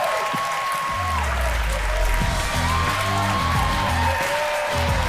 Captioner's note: audience cheers and applauds; hard rock music